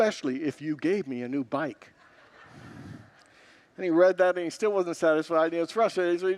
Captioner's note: congregants laugh